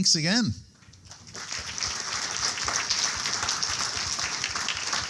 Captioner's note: audience applauding